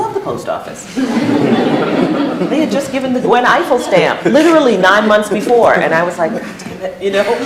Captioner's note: laughter